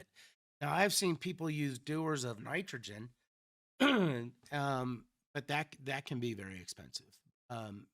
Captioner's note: clears throat